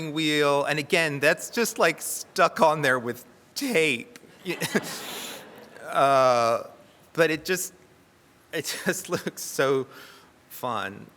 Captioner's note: chuckles